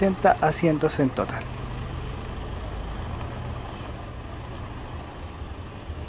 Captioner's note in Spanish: sonido ambiente del bus